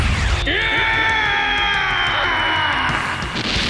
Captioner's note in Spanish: Grita dolorosamente